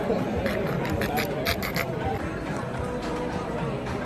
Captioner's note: crowd murmuring